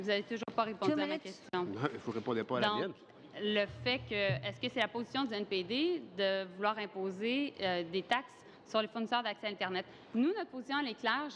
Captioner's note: speaking french